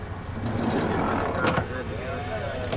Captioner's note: car door closing